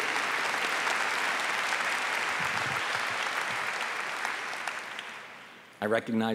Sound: applause

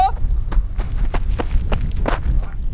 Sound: waddle sounds

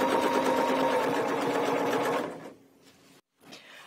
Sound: sewing machine whirring

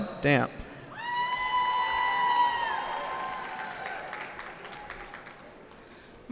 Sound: cheering

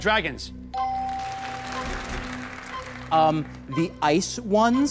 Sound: bell dings

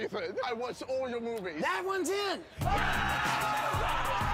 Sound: screaming and cheering

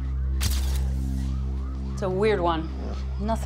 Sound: camera shutter clicks

